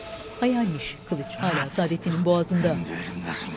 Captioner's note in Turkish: Nefes sesi